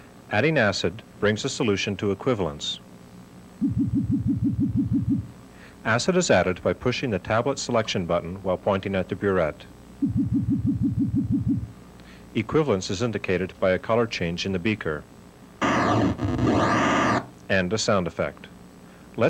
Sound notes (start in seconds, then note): 15.6 sound effect